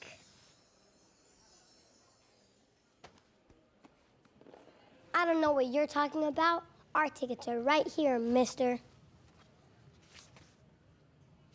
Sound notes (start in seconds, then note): none